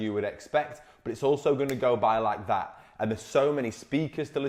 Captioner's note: snaps fingers